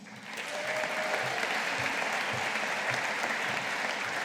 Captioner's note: audience applauding